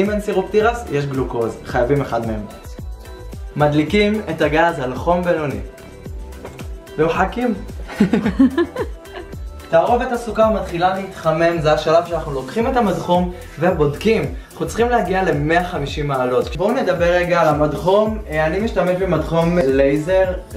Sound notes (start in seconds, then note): 7.8 laughter